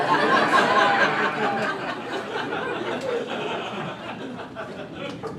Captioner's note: crowd laughing